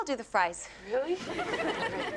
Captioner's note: audience laughs